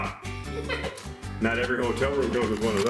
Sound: laughing

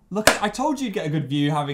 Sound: claps

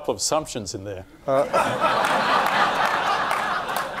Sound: laughing

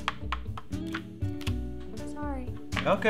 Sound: cards flipping; game piece clicking

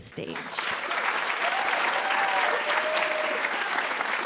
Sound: applause, cheering

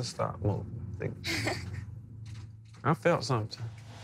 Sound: chuckles

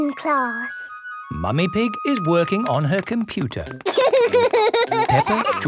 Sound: laughter

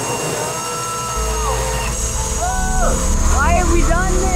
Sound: yelling

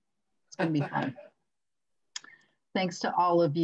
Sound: laughing

